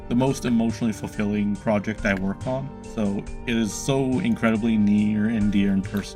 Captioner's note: none